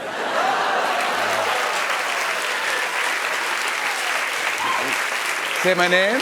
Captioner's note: laughter and applause